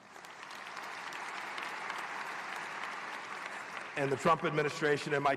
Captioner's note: applause